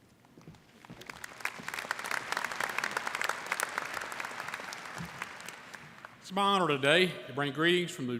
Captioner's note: applause